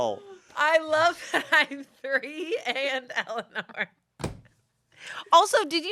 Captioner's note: laughs